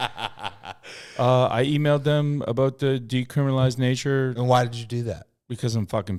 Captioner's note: laughing